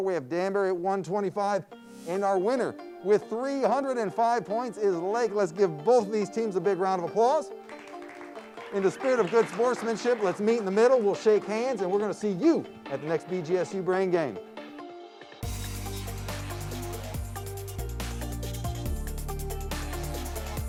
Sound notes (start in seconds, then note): 7.6 audience applauds; 15.4 intense electronic music